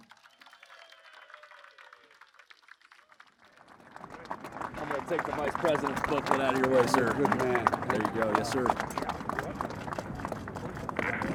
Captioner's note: applause